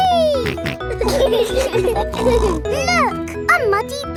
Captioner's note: laughing